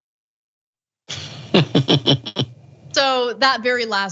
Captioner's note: laugh